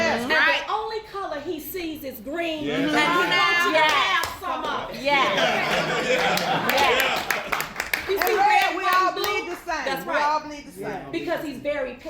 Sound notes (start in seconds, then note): 6.1 applause